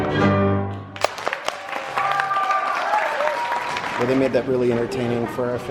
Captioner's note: audience applauding and cheering happily